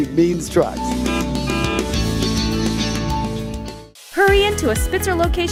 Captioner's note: horn honks